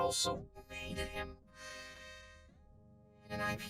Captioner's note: inhales deeply